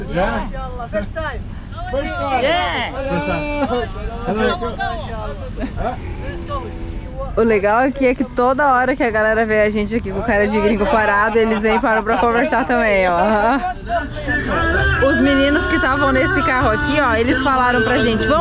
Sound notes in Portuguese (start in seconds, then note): 3.0 falatório